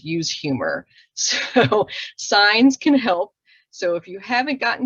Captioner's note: chuckles